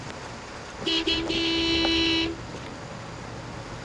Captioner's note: car horn